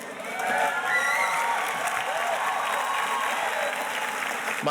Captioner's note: audience cheers and applauds